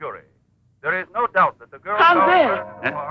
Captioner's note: announcer on Radio